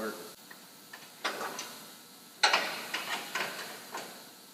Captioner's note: bolts clunking